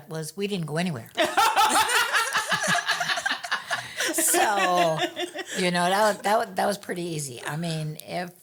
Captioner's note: laughing